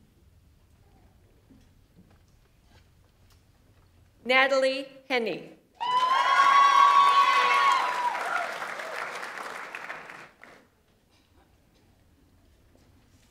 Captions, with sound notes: Natalie Henne. (audience applauds) (audience members cheer)